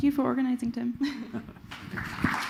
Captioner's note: applause